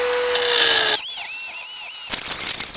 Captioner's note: water running